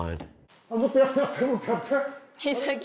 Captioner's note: speaking japanese